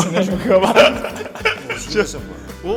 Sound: in Mandarin

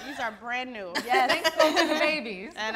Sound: laughing

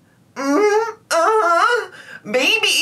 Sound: moaning

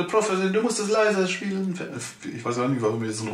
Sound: Russian accent

